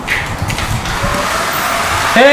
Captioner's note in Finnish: Imurin ääniä